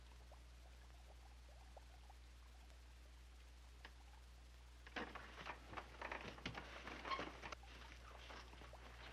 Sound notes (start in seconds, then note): 4.9 couch creaks; 7.5 water dripping